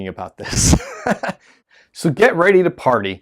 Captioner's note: laughs